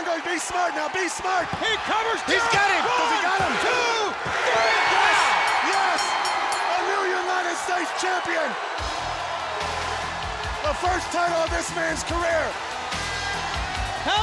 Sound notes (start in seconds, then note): 1.3 hands thudding; 4.7 crowd cheering; 5.2 bell ringing; 8.6 lively music